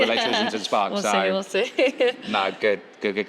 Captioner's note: laughs